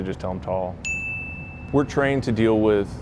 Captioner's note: bell dings